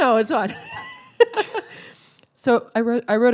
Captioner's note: laughs